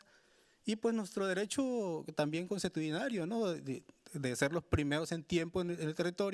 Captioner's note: speaking Spanish continues